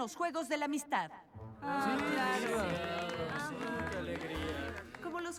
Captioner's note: murmurs and applause